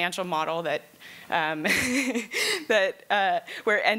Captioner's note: laughs